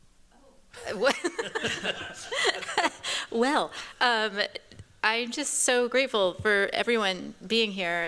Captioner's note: chuckles